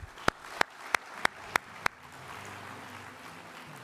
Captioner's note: applause